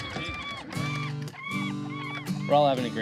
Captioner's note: birds squawking